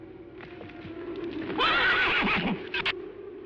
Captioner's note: horse neighing